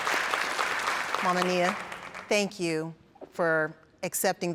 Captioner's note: applauding